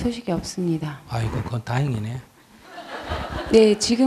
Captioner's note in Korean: 청중 웃음